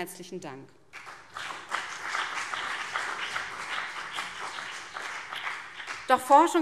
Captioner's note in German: Beifall BÜNDNIS 90/DIE GRÜNEN und vereinzelt CDU